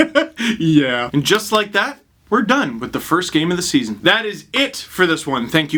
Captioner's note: laughs